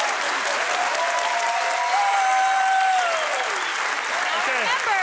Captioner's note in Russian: публика аплодирует